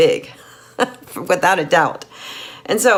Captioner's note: laughing